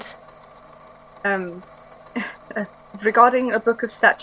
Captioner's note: nervous chuckle